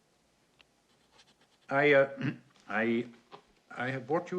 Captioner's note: clears throat